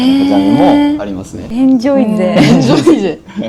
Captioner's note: laughs